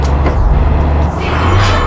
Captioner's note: engine revving